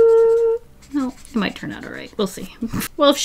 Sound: snorts

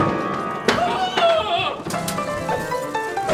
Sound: screaming; old timey piano music plays

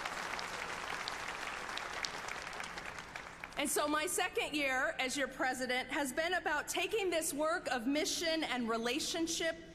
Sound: applause

